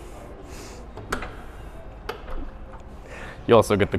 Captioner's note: latch clicks